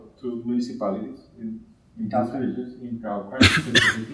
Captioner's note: coughing drowns out speaking